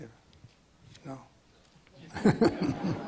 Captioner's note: laughs; audience laughs